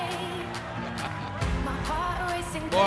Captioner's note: laughter